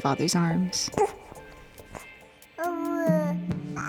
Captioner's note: cooing